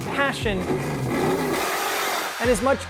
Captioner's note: engine roars